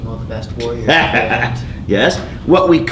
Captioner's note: laughing